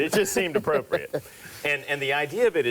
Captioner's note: laughs